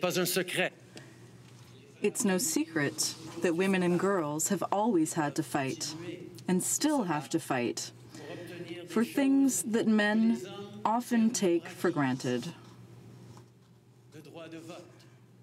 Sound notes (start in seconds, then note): 4.2 speaking french